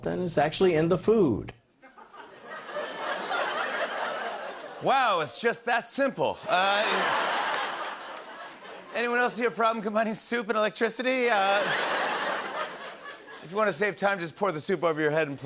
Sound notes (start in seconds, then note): 1.8 light laughter; 6.5 laughter; 11.3 laughter